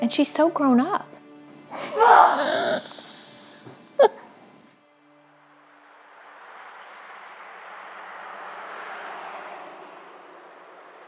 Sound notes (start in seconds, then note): 1.8 groans; 2.0 laughing